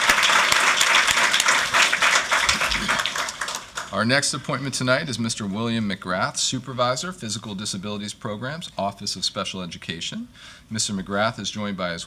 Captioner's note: applause